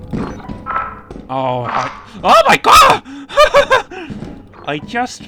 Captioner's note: scared laughter